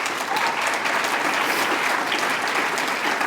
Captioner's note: applause